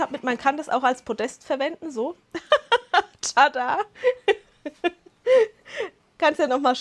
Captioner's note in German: Lachen